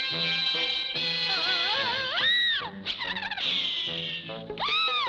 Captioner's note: screaming